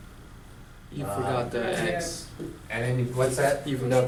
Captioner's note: voiceover